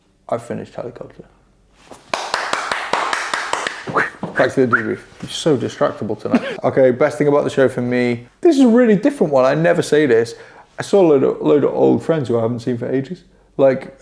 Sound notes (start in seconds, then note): 2.0 claps; 3.8 whistles